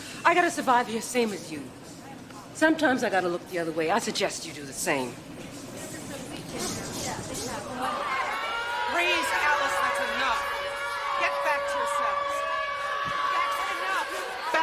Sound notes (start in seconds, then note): 7.8 inmates clamoring; 8.1 alarm wailing